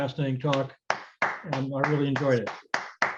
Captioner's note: clapping